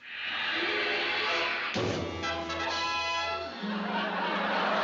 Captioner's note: boom